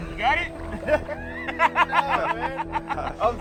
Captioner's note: laughter